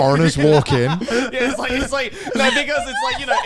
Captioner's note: hosts laugh